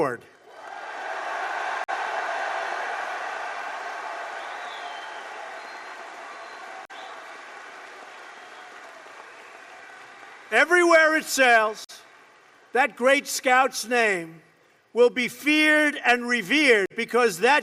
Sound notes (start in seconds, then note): 5.2 applause